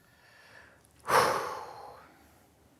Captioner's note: exhales sharply